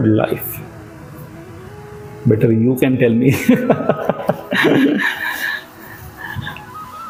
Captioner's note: laugh